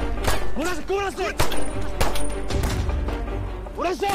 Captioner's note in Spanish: Disparos